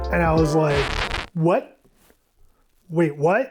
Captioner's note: zipper crackling